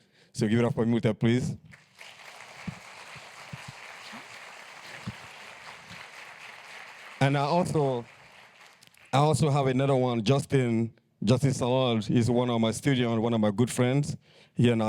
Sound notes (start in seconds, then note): 1.6 applause